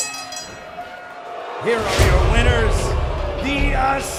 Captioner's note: bell ringing